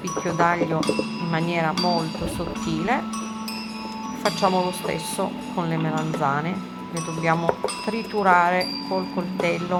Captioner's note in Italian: campana